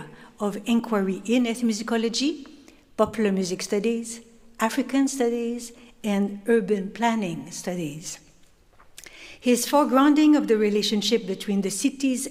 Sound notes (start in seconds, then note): none